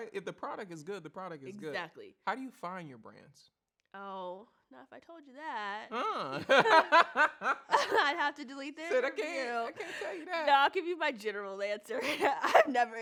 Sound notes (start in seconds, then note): 6.4 laughs out loud